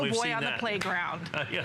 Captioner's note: laughter